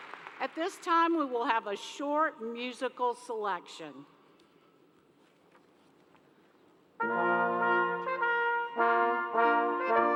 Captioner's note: applause